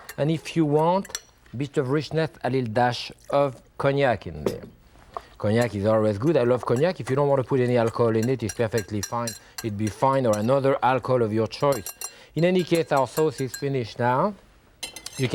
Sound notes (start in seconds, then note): 4.3 cognac splashes; 7.4 whisk clinking